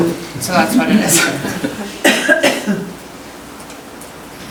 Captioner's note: chuckling